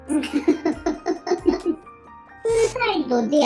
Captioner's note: laughs